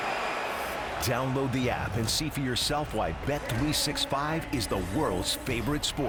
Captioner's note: crowd noise